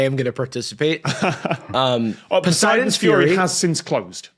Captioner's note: chuckles